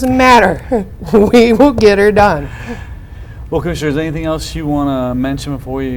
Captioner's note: laughing